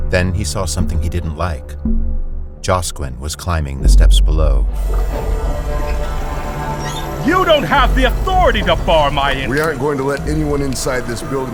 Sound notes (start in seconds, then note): 7.3 sound of gate mechanisms